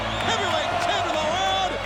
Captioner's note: audience chanting